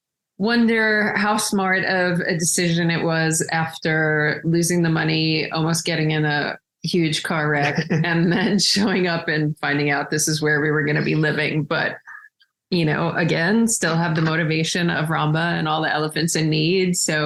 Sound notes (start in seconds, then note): 7.6 laughs